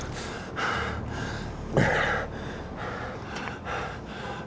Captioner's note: hard breathing